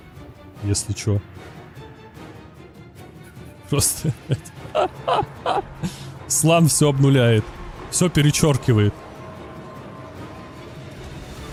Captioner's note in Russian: смех